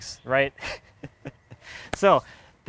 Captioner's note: laughing